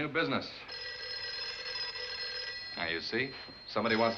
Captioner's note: telephone ringing